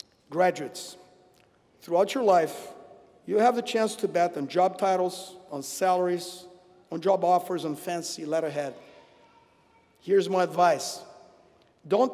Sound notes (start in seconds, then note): none